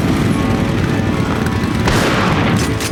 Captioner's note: shotgun blast; shotgun cocks